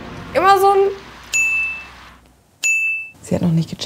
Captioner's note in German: Doppeltes Klingeln